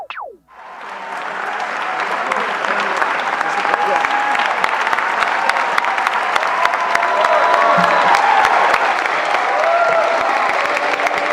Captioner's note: cheering